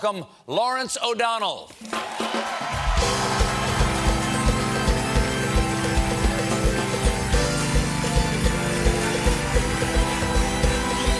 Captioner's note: cheers and applause; band playing